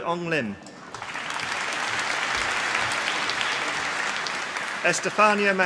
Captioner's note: applause